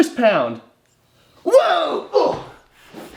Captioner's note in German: grunzt